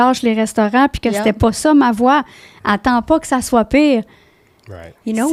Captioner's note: in french